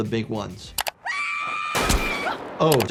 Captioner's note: gun booms